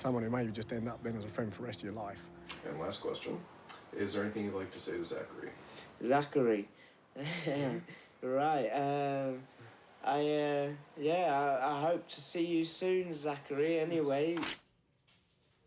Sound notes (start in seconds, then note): 7.1 laughs